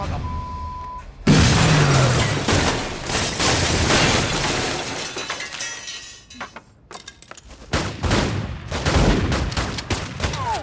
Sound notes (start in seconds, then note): 0.0 beep; 1.3 window shatters; 1.7 objects clatter; 7.7 guns banging